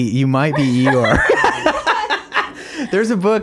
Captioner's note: laughing